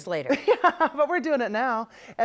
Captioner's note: laughs